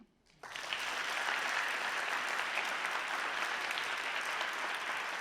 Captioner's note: audience applauding